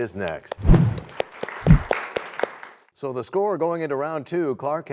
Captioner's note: applause